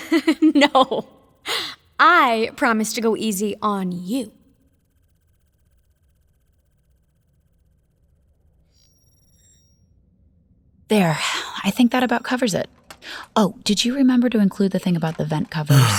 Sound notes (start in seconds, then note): 5.9 environment sounds fade away; 15.7 sighing